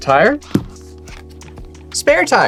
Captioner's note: thumps table